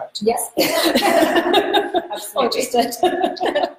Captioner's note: laughs